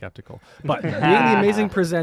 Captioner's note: laughter